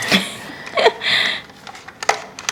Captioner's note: laughs